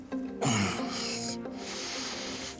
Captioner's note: groans